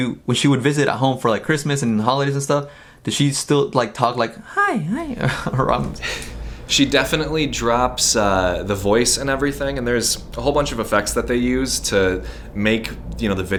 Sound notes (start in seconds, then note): 4.9 laughs